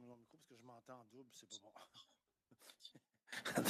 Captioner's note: speaking French